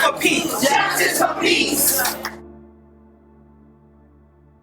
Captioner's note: crowd